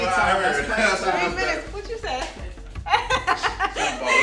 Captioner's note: laughs